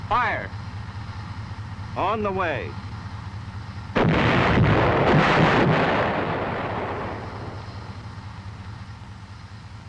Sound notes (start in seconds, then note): 3.9 shell exploding; 3.9 booming